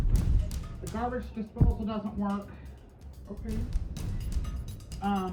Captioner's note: altered/distorted